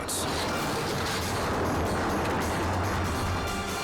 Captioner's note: car crashing